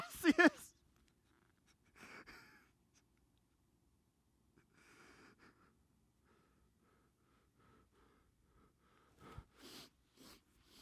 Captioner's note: laughs